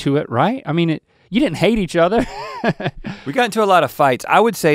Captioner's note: chuckles